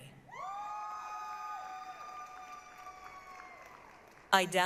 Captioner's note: applause, cheering